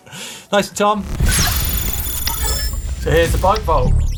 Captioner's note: electronic dinging